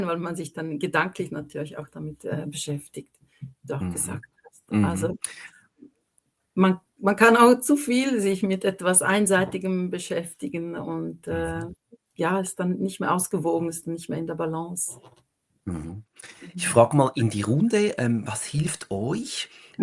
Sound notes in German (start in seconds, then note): 5.3 räuspern